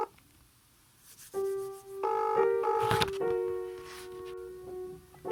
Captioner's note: dial tone